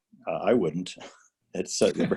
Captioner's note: laughter